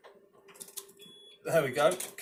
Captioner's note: machine beeping